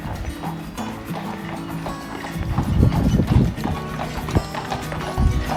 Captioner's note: horse shoes clopping